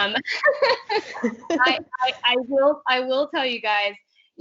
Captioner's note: laughing